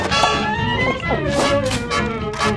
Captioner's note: gulping